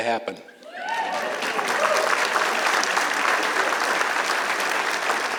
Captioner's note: applause